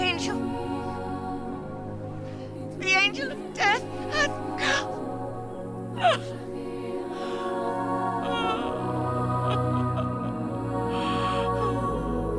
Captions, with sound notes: - The angel. The angel of death hath come. (crying) (soft heavenly classical music)